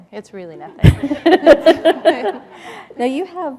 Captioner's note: laughter